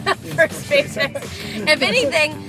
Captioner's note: laughing